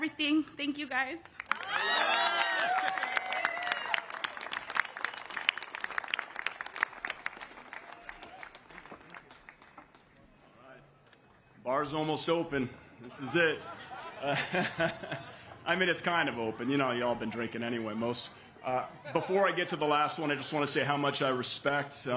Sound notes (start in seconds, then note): 7.9 cheers and applause